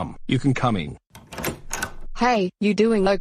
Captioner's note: door open